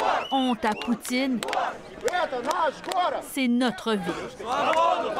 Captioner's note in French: slogans en russe